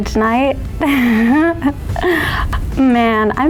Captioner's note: giggles